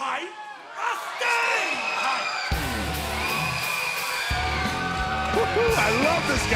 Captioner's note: crowd cheering